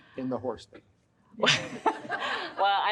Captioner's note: laughs; audience laughs